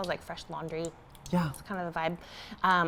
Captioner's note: bath popping